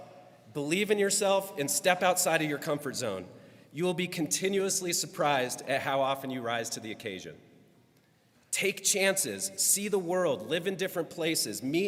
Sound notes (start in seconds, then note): none